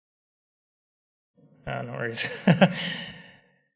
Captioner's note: laughter